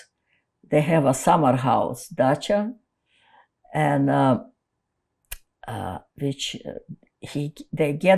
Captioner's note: russian